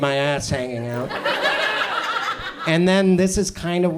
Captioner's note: audience laughs